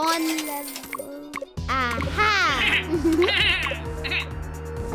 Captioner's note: bleating